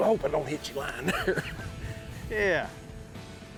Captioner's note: laughs